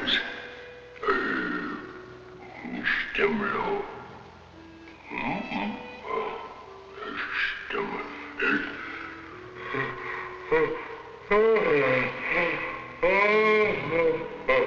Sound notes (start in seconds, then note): 0.3 speaking in a foreign language; 10.2 yawning